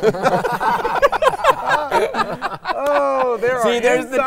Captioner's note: all laughing